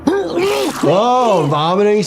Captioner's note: Angstrom vomiting